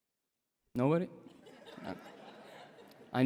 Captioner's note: laughter